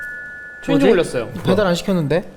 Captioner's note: The doorbell rings at the SKINZ house